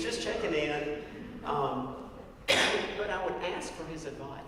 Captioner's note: cough